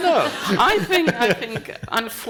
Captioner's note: panel and audience laughing